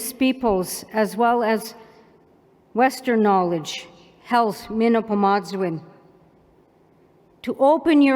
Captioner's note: non-english